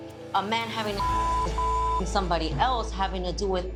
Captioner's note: beep